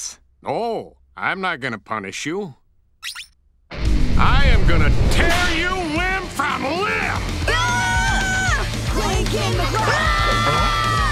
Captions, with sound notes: Oh, I'm not going to punish you. I am gonna tear you limb from limb! [screaming] [screaming]